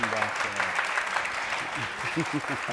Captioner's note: applause